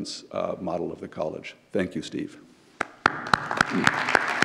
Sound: claps; audience applauds

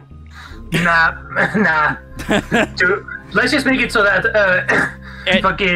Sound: laughter

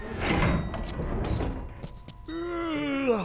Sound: yawns

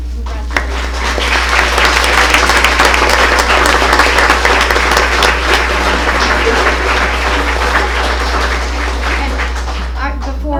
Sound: applause

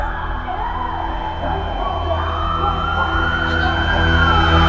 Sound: high pitched ringing

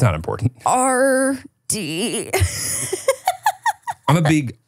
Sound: laughs

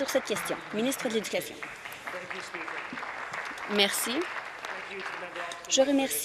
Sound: applause

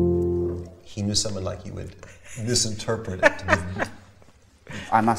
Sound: laughs

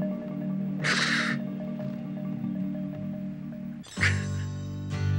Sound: softly crying

